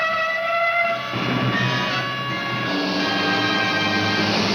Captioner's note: siren blaring